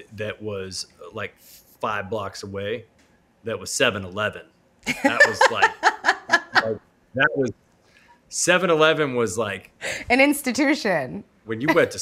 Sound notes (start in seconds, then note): 4.9 laughing